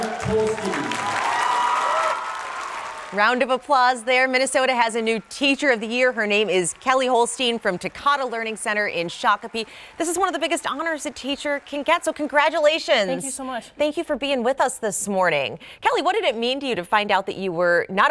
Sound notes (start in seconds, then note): 6.3 cheers and applause